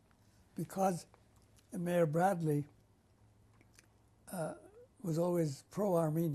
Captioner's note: pauses for 3 seconds